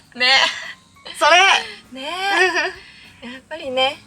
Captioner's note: Laughs